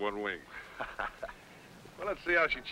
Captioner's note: men laughing